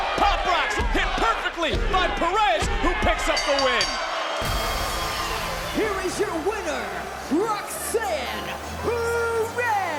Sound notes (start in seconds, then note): 3.3 bell dinging; 3.8 crowd cheering